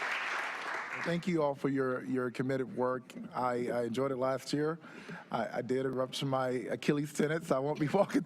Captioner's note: applause